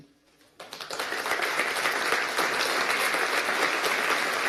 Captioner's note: applause